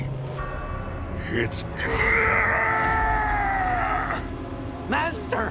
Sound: screaming

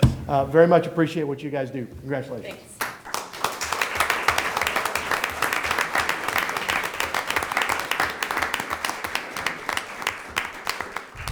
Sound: applause

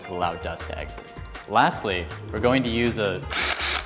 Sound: drilling sound

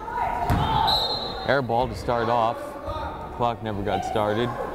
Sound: whistle blows

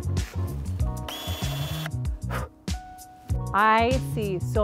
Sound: pruner whirs

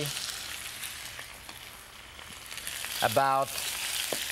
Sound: sizzling

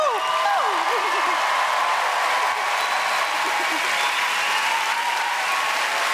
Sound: crowd cheering; crowd clapping; laughs

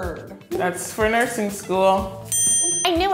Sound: ding

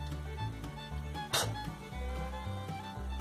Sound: spits

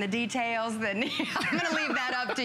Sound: laughter

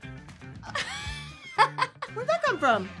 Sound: laughing

